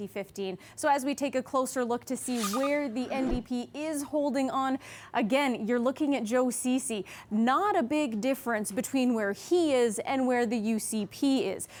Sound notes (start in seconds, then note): none